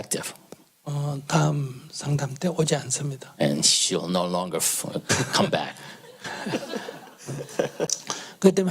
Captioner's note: /Audience laughter